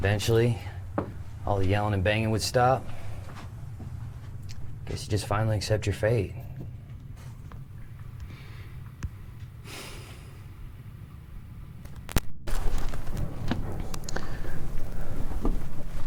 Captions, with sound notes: Eventually, all the yelling and banging would stop. Guess you just finally accept your fate. (Pete sighs) (screen crackling)